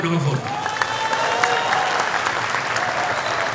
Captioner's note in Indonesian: tepuk tangan